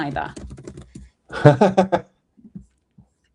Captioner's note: laughs